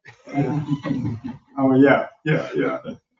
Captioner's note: all laugh